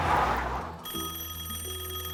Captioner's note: tires screech; telephone rings